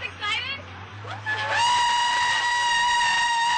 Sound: cheering

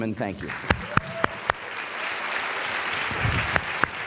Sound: applause

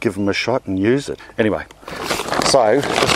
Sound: packaging crackles

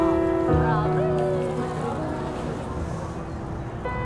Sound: background chatter

